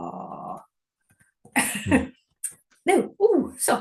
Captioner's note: laughter